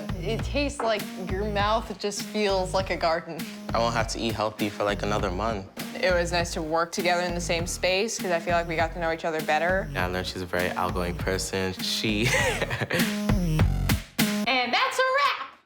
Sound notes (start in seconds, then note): 12.2 laughs